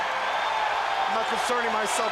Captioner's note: crowd cheering